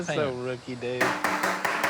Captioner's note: tapping